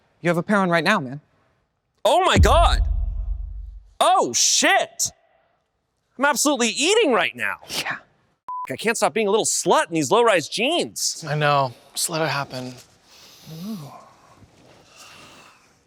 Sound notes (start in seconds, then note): 9.0 beep